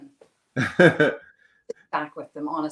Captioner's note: laughs